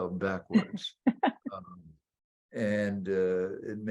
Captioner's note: laughing